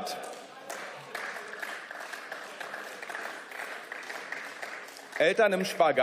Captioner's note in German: Beifall